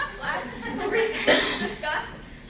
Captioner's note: laughter